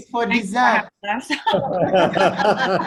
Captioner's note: laughter